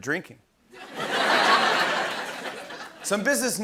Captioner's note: laughter